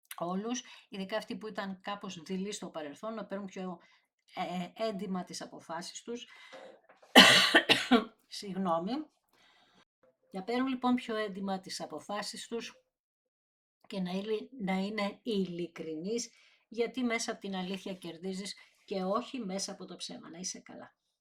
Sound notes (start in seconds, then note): 7.1 cough; 7.1 dry cough